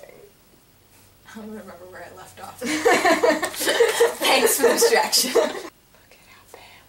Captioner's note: laughing